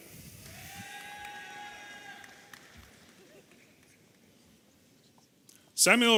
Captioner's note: audience applauding and cheering